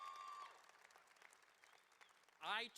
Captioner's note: cheering and applause